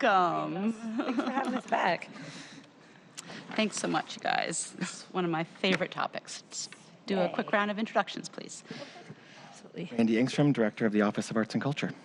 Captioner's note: laughter